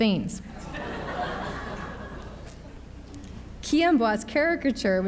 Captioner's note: audience laughs